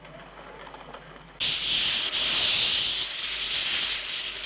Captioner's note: hissing